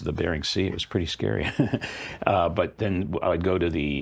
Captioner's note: laughs